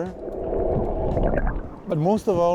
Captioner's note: underwater noises